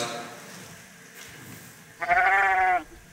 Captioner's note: sheep bleats